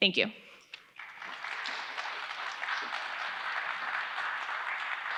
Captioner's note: audience applauding